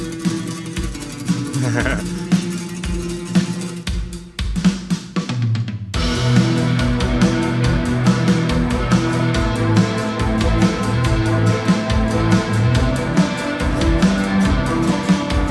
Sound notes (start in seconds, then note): 1.4 laughing; 6.2 tense music